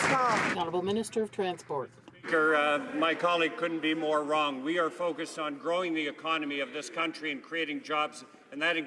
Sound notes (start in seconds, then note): 0.0 some Applause